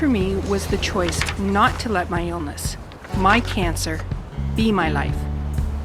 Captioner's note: sound of paper flapping in wind